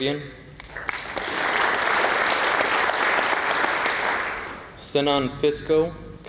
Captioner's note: applause